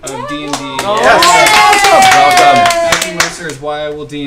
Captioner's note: cheering